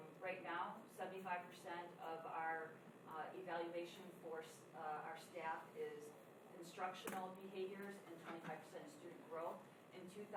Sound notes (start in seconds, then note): none